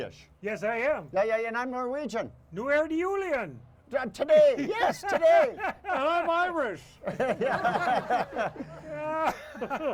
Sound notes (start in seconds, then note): 2.3 speaking in foreign language; 4.6 laughs; 6.8 all laughing